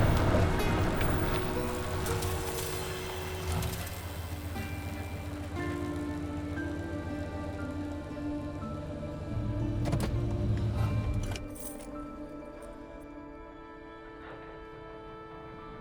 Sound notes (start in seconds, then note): 9.7 engine shuts off, keys jangle; 9.7 gearshift clicks